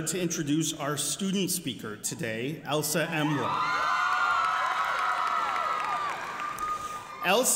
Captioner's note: applause